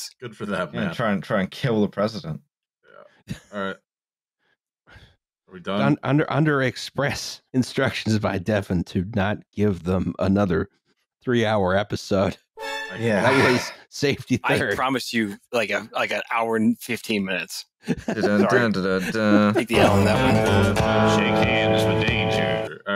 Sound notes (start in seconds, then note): 12.6 high strings; 13.0 sighs; 19.8 ♫ twangy guitar riff ♫